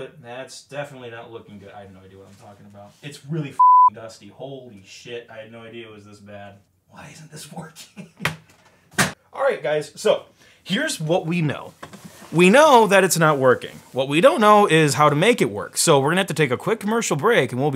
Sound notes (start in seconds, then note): 3.6 beep; 7.6 laughs